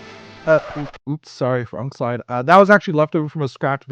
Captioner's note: record scratch